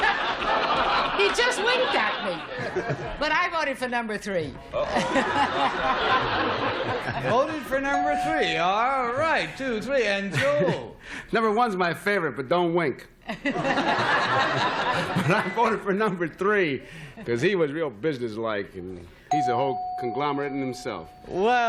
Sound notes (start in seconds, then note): 0.0 laughter; 13.2 laughter